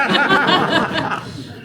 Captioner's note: laughter